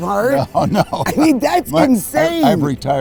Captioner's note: laughing